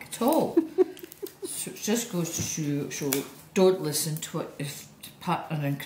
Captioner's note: laughs